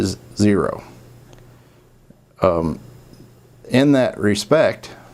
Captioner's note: silence